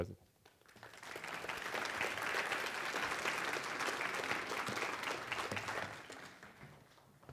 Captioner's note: applause